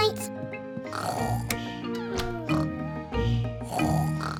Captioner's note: both snoring